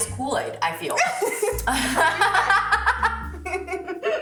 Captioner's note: girls laugh